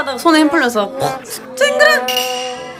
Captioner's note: clank-!